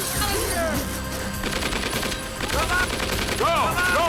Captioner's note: gun fires